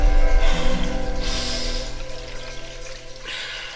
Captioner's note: running water